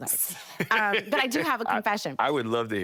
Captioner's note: laughing